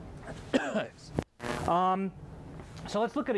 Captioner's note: coughing